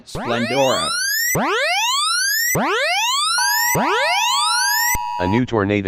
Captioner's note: siren